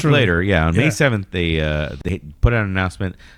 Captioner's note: uh